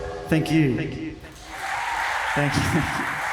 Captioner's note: audience applauds and cheers